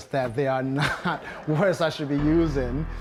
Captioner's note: crowd laughing